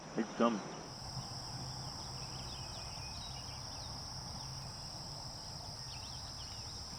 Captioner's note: birds chirp; insects chirp